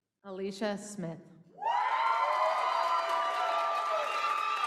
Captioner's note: applause